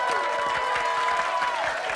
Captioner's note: crowd cheering